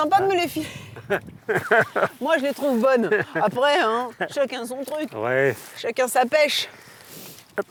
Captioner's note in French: rires